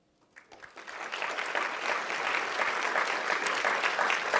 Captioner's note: audience applauding